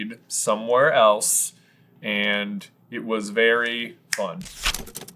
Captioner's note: snaps